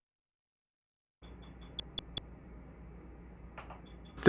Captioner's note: soft, high-pitched clicks